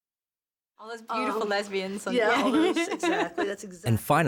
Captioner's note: laughs